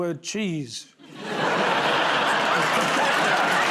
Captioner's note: laughter; applause